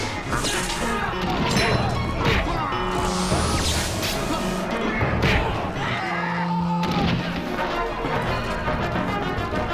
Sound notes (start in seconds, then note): 5.8 man yelling